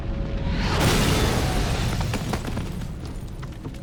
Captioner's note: explosion booms